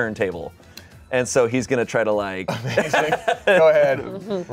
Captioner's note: laughs